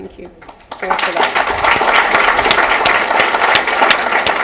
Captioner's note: applause